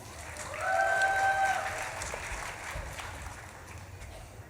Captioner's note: audience claps and cheers